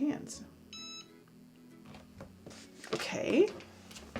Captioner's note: beeping